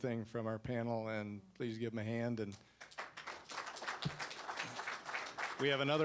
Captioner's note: applause